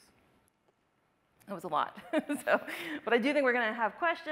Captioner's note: laughs